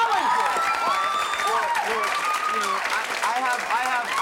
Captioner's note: cheering